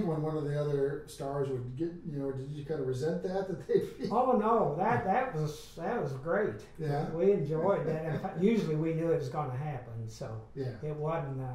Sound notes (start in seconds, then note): 3.6 laughs